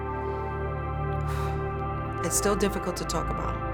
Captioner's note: exhales